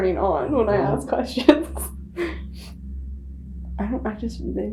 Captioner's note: laughing